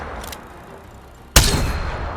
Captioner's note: sound of shooting